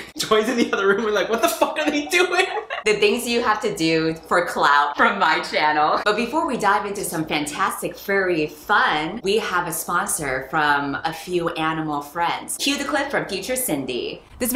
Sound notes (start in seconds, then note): 5.6 laughs